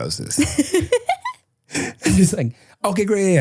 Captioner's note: person laughing